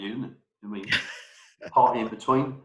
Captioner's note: laughs